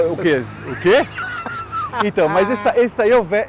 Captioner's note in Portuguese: risos